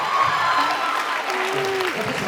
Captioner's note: laughs, applauds, cheers